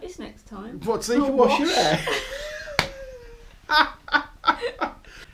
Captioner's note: laughter